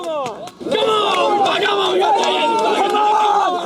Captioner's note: cheering